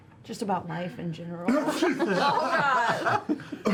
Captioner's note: sneezes